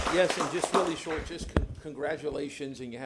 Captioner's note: applause